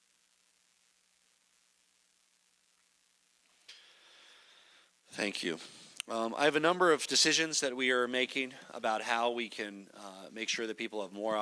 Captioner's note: silence